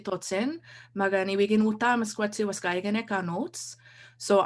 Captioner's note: cree language